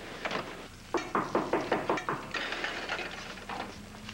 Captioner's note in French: On frappe à la porte